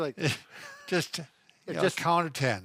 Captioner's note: both laughs